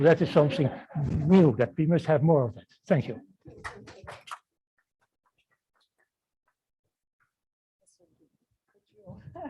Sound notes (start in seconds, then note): 3.3 applause